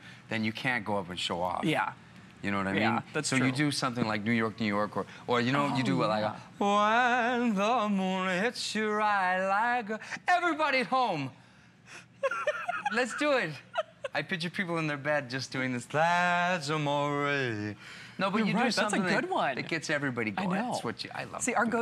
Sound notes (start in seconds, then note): 12.2 laughter